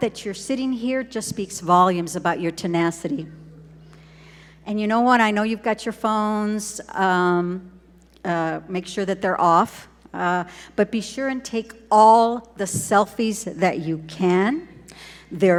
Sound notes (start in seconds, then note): none